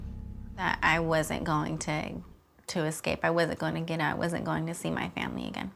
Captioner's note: none